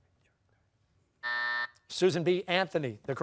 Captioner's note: buzzer